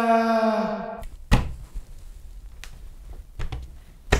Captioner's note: hand thuds